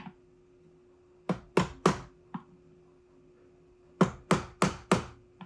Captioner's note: mallet banging